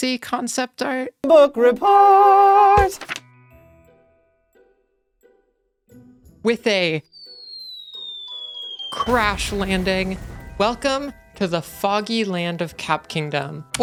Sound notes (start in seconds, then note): 2.8 page turn; 7.2 cartoon falling sound effect